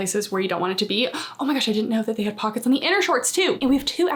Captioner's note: gasps